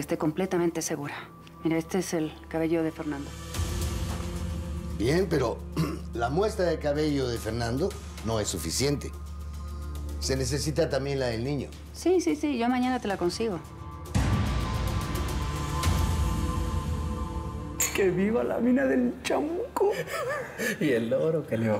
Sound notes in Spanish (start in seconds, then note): 17.8 Choque de vasos; 19.9 Risas